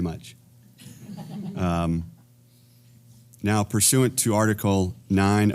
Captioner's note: laugh